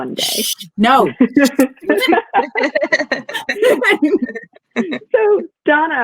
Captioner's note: all laugh